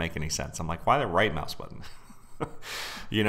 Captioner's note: laughs